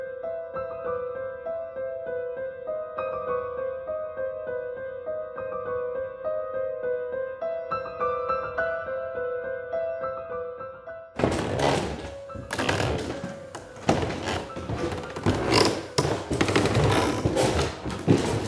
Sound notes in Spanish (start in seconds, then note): 11.2 Escalera crujiendo